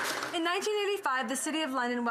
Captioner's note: applause